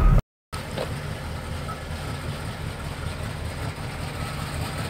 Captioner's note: car idles